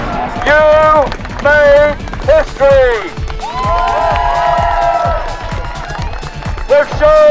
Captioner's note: cheering